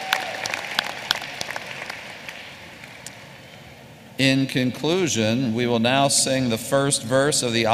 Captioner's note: applause